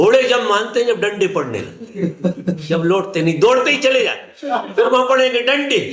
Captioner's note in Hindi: हंसी